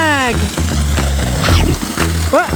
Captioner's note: crunch